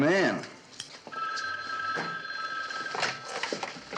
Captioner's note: phone ringing